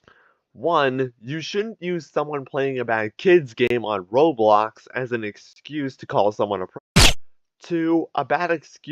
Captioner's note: silenced gunfire's final hurrah